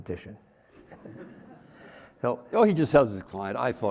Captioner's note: audience laughing